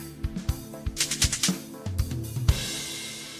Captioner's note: rhythmic clicking